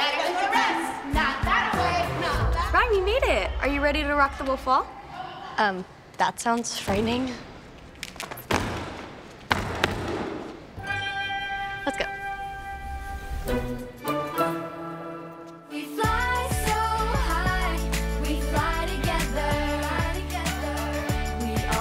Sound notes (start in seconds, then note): 8.1 shoe slapping floor; 11.0 bell rings; 13.6 pop beat playing